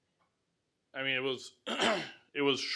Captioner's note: clears throat